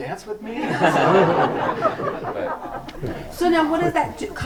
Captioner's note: group laughs